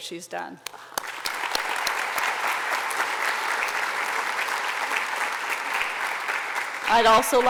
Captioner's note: applause